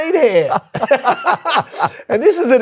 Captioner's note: laugh